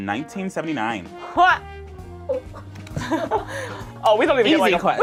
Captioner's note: laughs